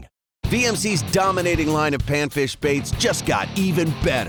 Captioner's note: voiceover